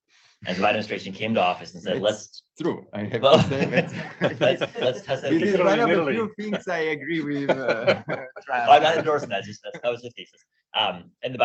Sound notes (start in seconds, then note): 0.3 chuckling; 3.2 all laughing